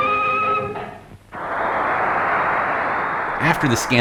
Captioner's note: audience cheers